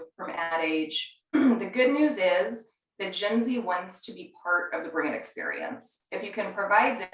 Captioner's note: cough